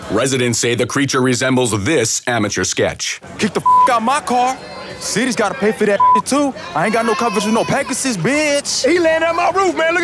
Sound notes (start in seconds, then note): 3.6 beep; 6.0 beep